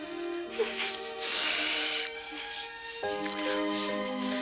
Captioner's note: breathing deeply